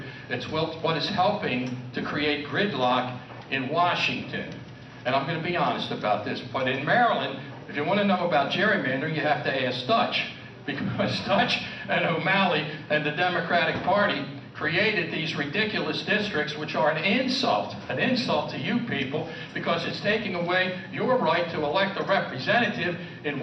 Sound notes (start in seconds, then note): 11.0 laughs